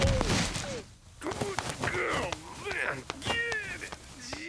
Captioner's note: grunting and groaning